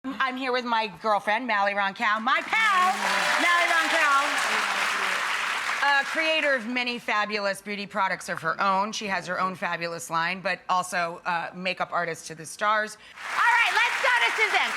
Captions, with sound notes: I'm here with my girlfriend, Mally Roncal, (audience cheering) my pal, Mally Roncal-- I love you. Creator of many fabulous beauty products of her own. She has her own fabulous line but also makeup artist to the stars. All right, let's start at Suzanne.